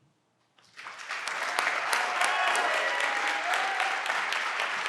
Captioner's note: everyone claps and cheer